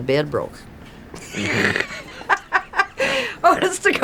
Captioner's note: laughs